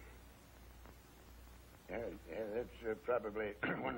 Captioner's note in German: Räuscht sich